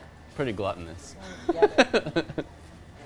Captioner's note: laughs